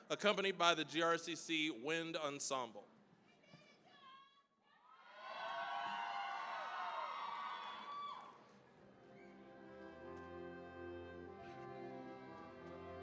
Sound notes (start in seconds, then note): 5.0 cheering, applause; 9.4 orchestral music